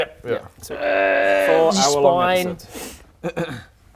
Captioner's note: urgggh